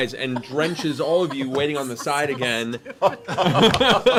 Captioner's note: laughter